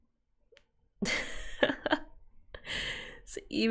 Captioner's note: laughs